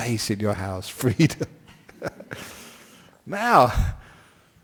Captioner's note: laughs